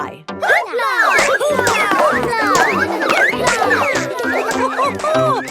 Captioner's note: all laugh